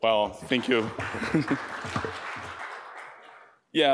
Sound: applause

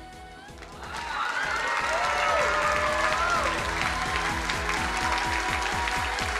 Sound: crowd cheering and applauding

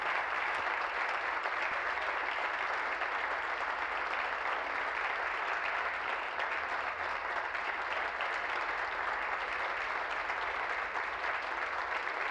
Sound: applause

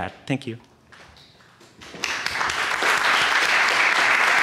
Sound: applause

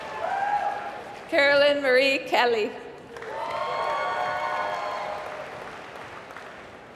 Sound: applause

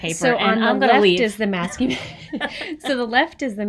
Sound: everybody laughs

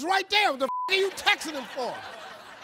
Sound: beep; audience laughing

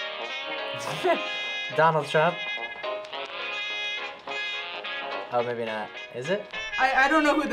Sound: chuckles

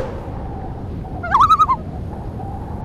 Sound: loon call

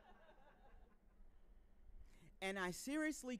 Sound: audience laughing

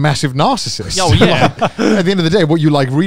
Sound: laughs

